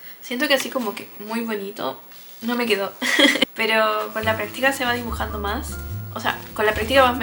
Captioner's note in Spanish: risas